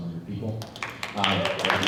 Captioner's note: applause